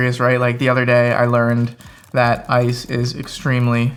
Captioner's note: fingers typing